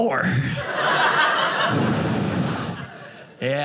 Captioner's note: audience laughing